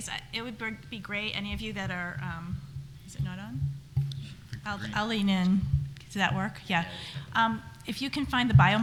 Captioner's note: adjusts microphone